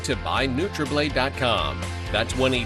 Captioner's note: none